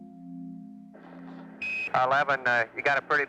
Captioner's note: device beeps